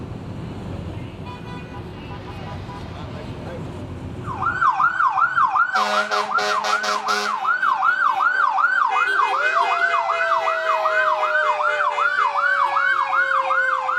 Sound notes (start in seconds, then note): 1.0 horns honking; 4.7 police sirens; 5.6 firetruck horns; 9.8 firetruck sirens